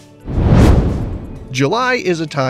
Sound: meteor whooshes

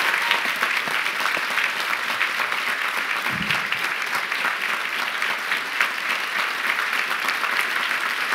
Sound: applause

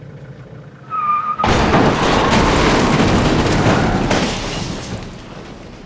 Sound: car crash

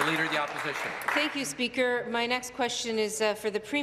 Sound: applause

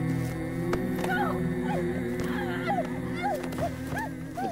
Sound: screaming

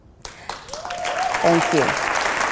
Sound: applause

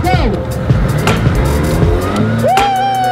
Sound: engine accelerates; cheers

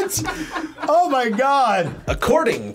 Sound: React laughs

